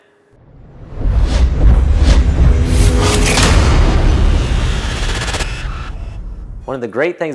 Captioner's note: sound effect